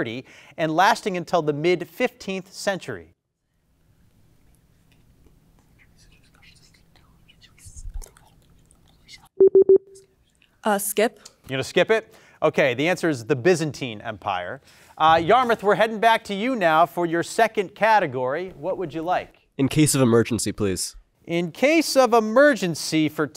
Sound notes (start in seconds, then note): 3.9 team whispering; 9.1 buzzer pulses